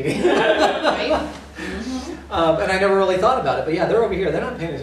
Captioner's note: laughter